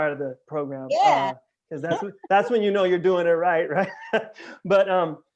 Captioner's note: laughter